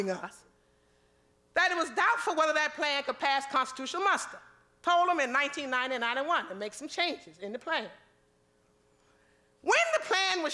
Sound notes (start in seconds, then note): none